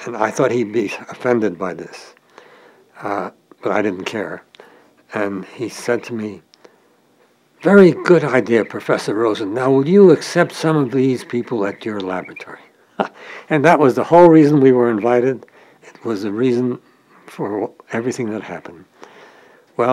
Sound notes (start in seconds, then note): 13.0 chuckle